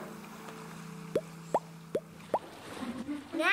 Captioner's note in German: Leise Ploppgeräusche